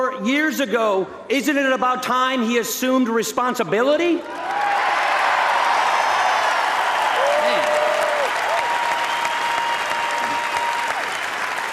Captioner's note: applause